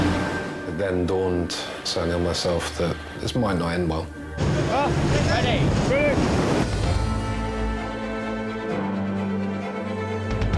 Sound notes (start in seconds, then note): 4.3 boat engine revving; 6.2 waves crashing; 7.1 dramatic music